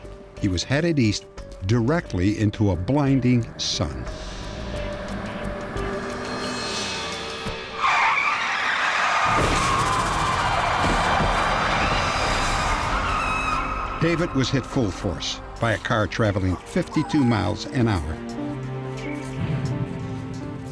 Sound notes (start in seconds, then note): 7.9 tires screeching; 9.0 crash